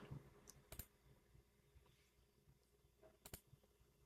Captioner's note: keyboard clicking